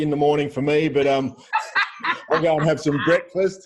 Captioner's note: laughs